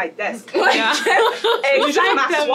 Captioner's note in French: rires